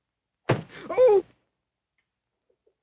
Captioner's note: kicking; groaning